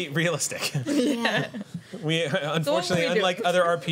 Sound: laughter

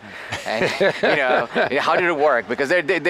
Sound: laughter

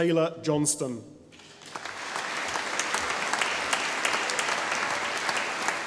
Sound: audience applauding

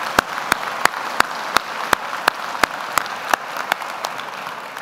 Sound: audience applauding

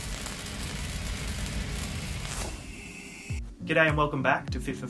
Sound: static sounds

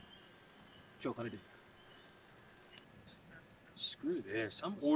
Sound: Darnell speaking in foreign language

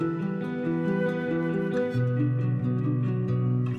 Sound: none

